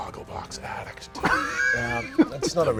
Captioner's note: laughter